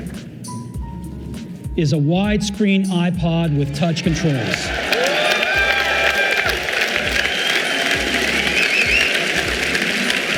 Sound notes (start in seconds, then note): 3.4 audience cheering